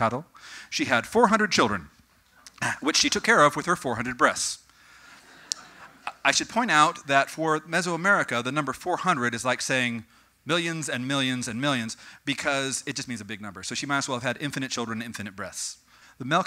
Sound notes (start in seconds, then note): 5.2 audience: laughter